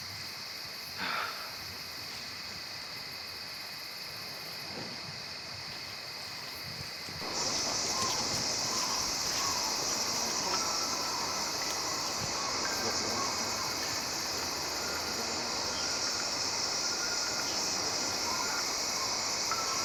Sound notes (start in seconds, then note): 7.2 forest ambience; 10.6 ominous music